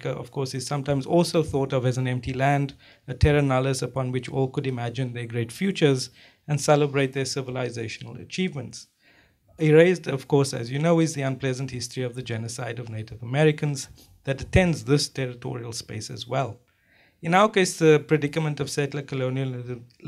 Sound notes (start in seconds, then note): none